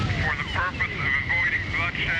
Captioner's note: man On Radio